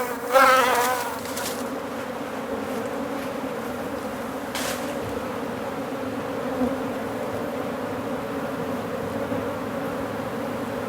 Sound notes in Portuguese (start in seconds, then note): 1.2 Som ambiente